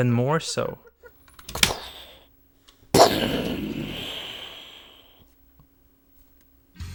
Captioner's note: making explosion noise